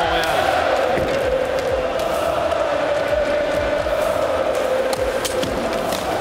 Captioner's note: fans chanting